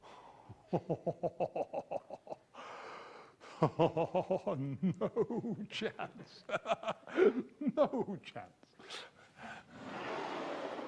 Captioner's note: evil laughter